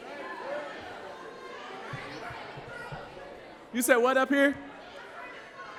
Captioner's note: crowd calls out answers